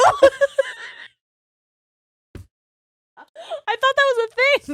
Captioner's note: laughing quietly